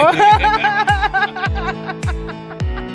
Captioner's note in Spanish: risas